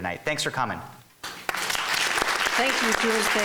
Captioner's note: clapping